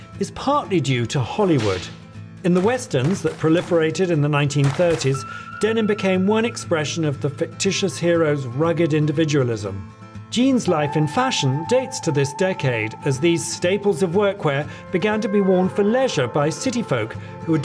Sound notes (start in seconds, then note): 1.5 gunshot pops; 1.5 whip cracks